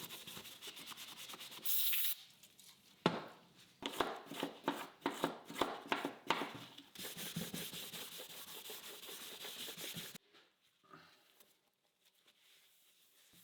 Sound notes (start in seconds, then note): 1.6 spray hissing